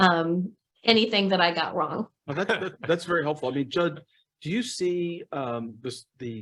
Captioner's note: laughter